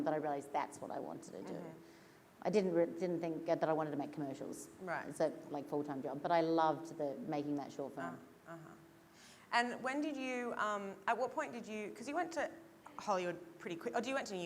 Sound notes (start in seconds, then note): none